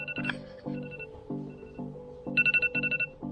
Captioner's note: iPhone 11 Alarm Ringing